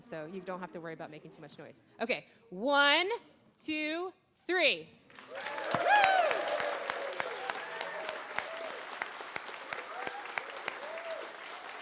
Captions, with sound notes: so you don't have to worry about making too much noise. Okay, one, two, three. (applause and cheering)